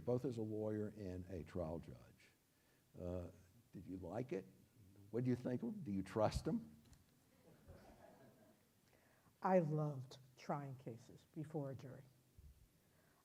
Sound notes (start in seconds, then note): 8.2 audience laughs